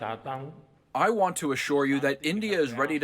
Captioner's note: through translator